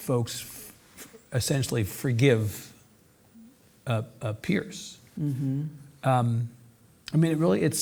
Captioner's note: hums